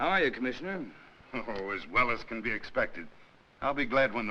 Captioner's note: chuckles